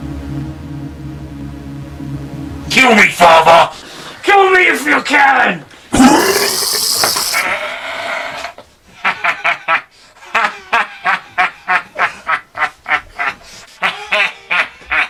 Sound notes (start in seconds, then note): 5.9 monster retching; 9.0 monster laughing